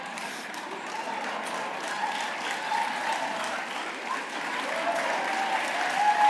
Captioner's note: applause